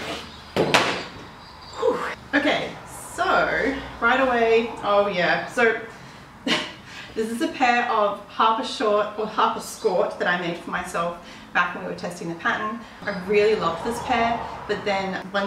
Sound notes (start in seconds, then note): 1.2 phew; 4.7 laughs